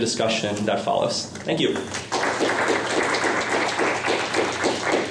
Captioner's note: applause